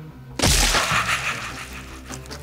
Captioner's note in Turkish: Evet... Happy wheelsdeki karakter parçalanma sesi